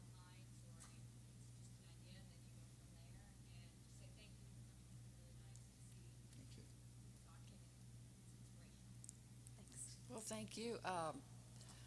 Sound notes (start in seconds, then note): none